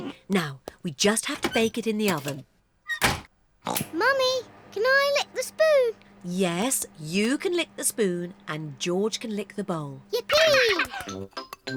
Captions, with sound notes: Now, we just have to bake it in the oven. (OINKS) Mummy, can I lick the spoon? Yes, you can lick the spoon and George can lick the bowl. -Yippee! -(GIGGLES)